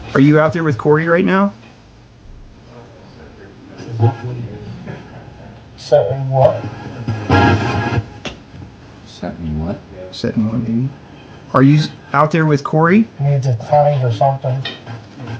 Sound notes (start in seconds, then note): 8.1 radio static hisses